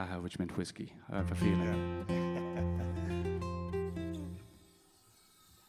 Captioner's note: laughs